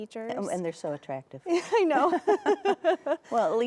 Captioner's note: both laughing